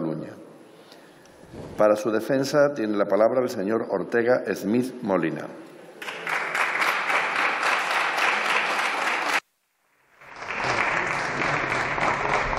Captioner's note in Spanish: Aplausos